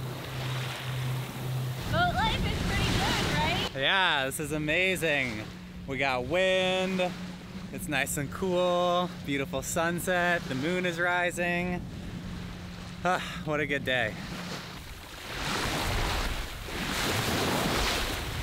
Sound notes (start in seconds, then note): 13.1 sighing; 15.3 water crashing